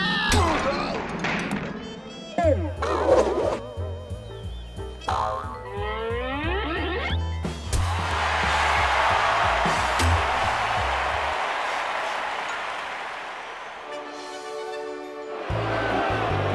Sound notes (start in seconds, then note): 7.9 crowd cheers; 15.1 crowd boos